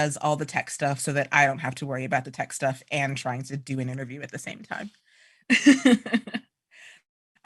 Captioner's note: laughter